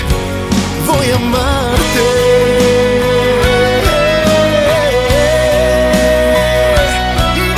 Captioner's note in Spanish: ¡Heee!